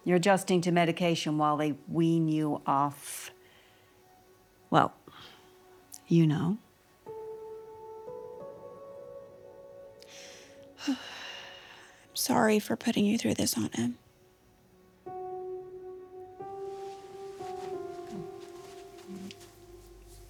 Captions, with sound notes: You're adjusting to medication while they wean you off, well, you know. (gentle music) (Dorothy sighs) - I'm sorry for putting you through this, Aunt Em. (gentle music continues)